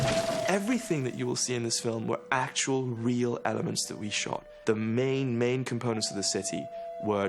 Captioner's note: shot